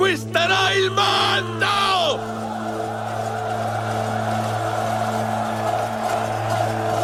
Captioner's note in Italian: Applauso